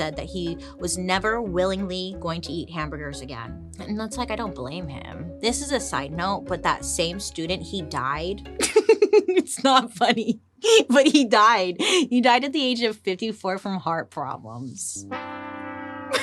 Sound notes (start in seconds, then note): 8.6 laughs; 15.0 sad whimsical music